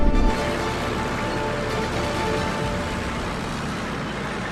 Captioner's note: footsteps and engines